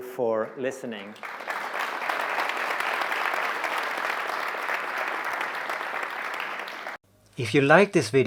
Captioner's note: clapping